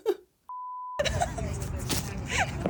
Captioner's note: beep; laughing